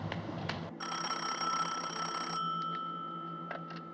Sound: ringing

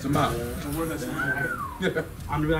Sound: laugh

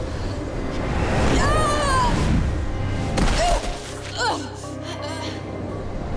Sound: groaning

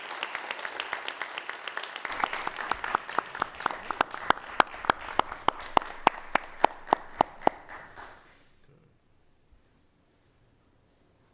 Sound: applause

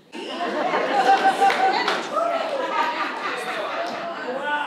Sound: audience laughs

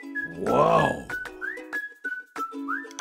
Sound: cartoon Voice; monster Voice

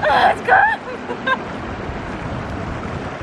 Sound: laughing

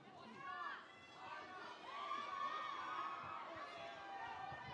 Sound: speakers cheering

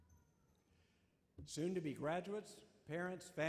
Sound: voiceover

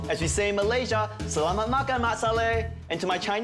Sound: speaks Malaysian phrase

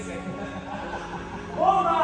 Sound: laughter

